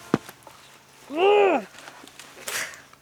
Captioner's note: Cara grunts in frustration